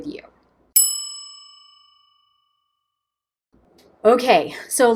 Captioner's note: bell dinging